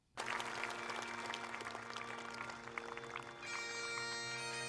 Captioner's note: crowd clapping; bagpipe music